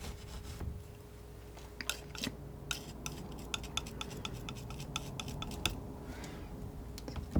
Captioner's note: scratching